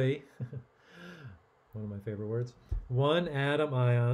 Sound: chuckling

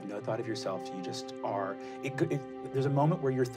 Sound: none

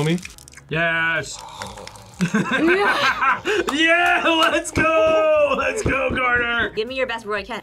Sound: laughs

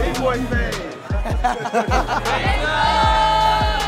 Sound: men laughing

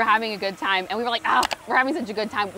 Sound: mouse clicking

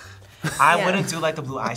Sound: laughs

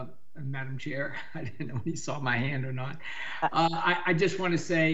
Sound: chuckles

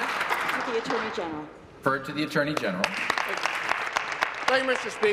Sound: applause

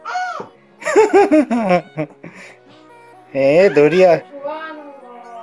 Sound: laugh

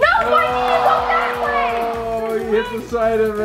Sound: disappointed crowd; yelling

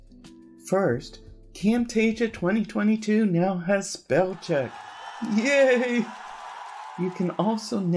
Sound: crowd Cheering

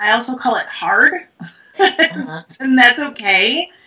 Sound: laughs

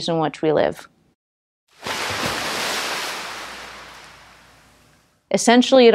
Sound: splash

